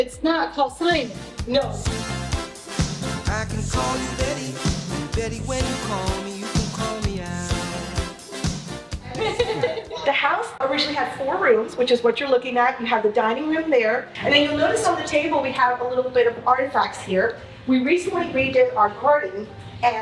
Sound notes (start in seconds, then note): 9.0 laughs